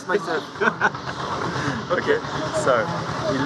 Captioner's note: laughter